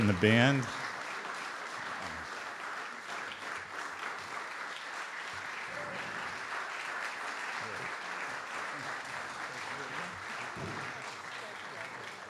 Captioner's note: audience Applause